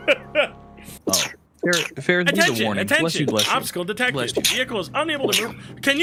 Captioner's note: laughs; sneezes repeatedly